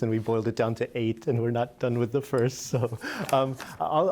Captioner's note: laughter